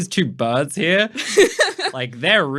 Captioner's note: laughing